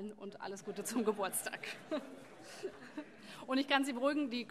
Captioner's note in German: Heiterkeit